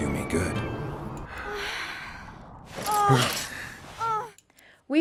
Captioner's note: moaning